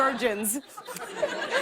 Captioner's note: laughter